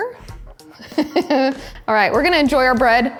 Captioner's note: chuckles